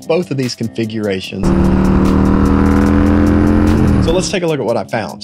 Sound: engine revving

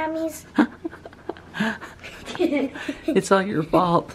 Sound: laughing

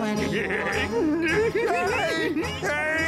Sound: laughing

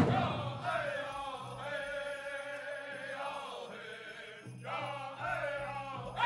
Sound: regalia ornaments jingling

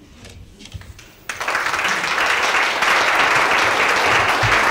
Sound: applause

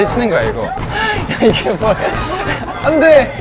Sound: laughing

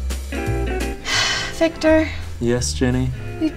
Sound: sighs

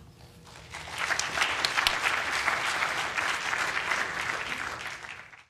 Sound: applause

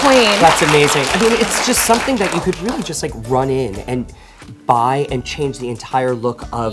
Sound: applause

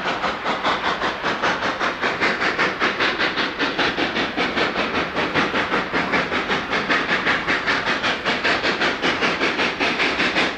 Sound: HEAVY steam locomotive chugging

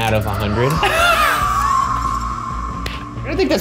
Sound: laughing

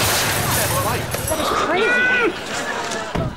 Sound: groaning

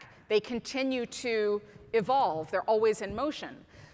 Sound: none

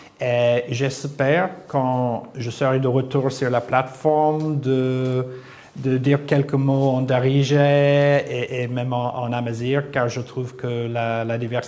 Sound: moroccan dialect

